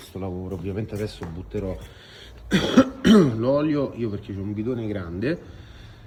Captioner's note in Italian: schiarire la voce